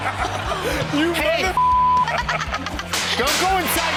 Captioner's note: all laugh; beep